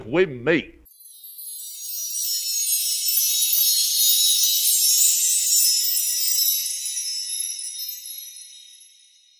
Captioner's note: windchimes